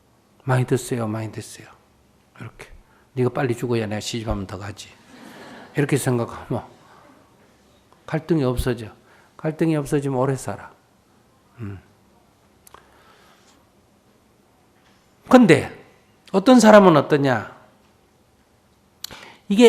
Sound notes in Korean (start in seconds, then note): 5.1 청중 웃음